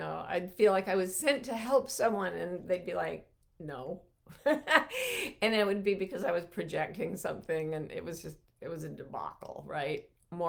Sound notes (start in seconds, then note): 4.4 laughs